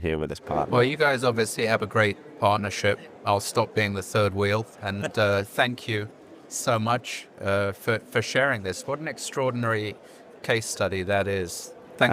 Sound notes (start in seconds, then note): 6.6 chuckling